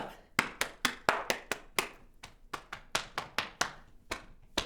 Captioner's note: hands clapping